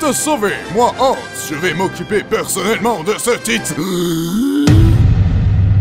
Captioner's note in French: hoquet d'effroi